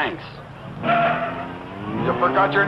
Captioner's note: tires screeching